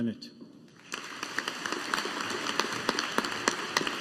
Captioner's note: audience applauding